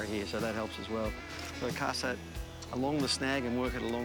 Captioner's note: upbeat music continues; line whizzes